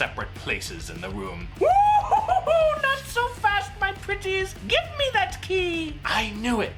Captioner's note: mad hag cackling